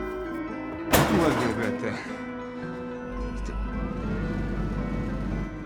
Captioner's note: man speaking in unknown foreign language